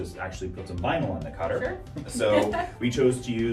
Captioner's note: laughs